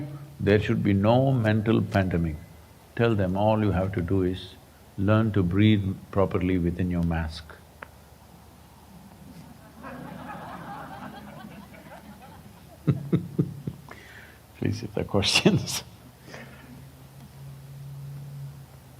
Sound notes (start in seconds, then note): 12.4 laughter; 17.8 laughs